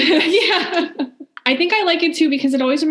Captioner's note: laughing